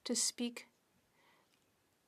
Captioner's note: speaking French